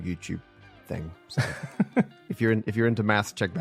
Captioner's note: laughs